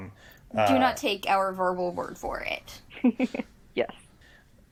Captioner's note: giggles